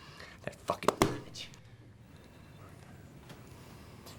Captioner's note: pen thuds